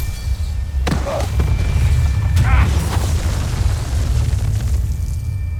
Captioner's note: evil energy whoosh & crackle; thuds; groans; growls, scepter thuds